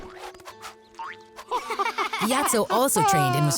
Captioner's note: laughing